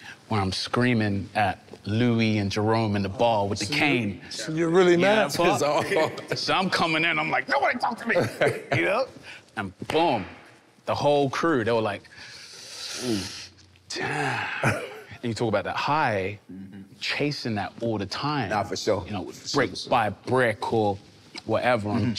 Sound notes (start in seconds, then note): 6.1 laughing amusingly; 12.5 sucking teeth